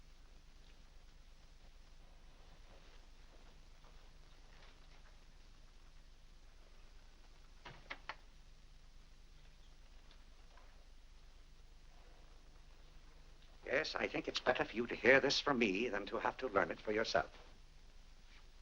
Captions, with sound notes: (doors close) Yes, I think it's better for you to hear this from me than to have to learn it for yourself.